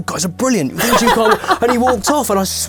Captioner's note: laughing